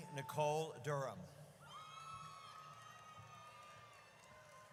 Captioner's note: audience cheers